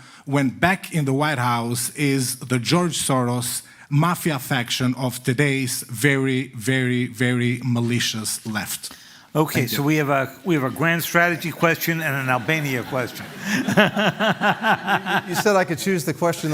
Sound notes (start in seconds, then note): 12.1 laughter